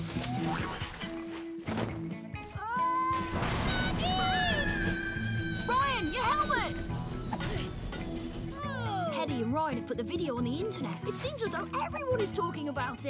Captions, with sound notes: [boing!] Ahh! [crash!] MAGGIE! Ahhh! Ryan! Your helmet Ah-ooh! Hedy and Ryan have put the video on the internet It seems as though everyone is talking about it.